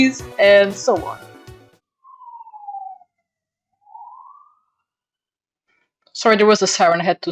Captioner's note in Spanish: ruidos de sirena